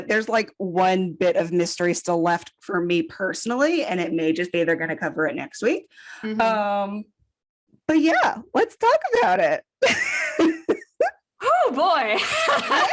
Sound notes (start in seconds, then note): 10.7 wheeze; 12.7 laughing